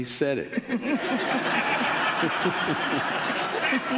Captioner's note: laughing